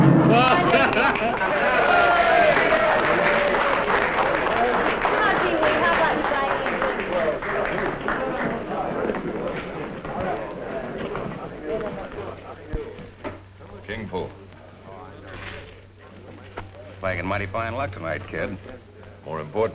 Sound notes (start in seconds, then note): 0.3 laughter; 2.1 applause; 5.6 chatter